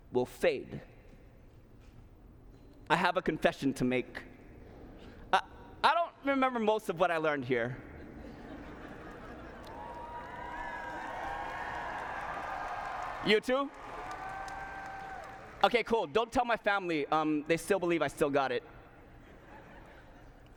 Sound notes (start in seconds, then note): 7.9 laughter; 9.6 cheering